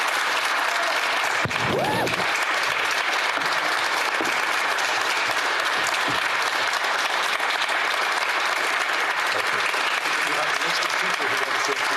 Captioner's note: applause